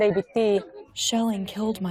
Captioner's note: through translator